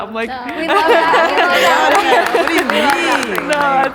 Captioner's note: contestants applauding